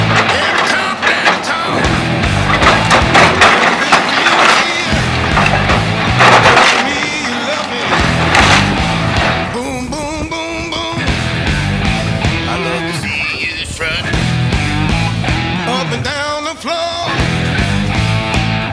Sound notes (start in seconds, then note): 3.6 wood breaking; 7.4 metal falling